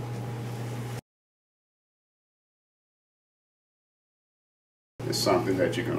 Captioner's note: silence